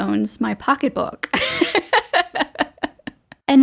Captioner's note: laughter